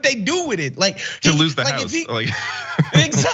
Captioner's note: laugh